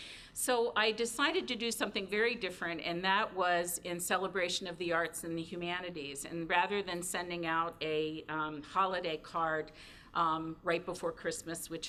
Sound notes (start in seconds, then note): none